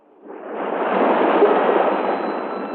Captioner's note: waves crashing